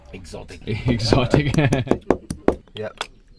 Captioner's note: laughs